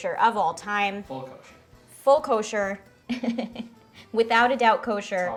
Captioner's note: laughs